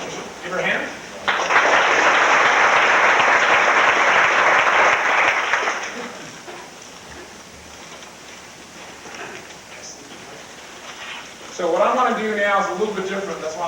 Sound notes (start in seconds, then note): 1.2 crowd clapping